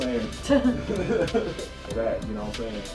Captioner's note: both laughing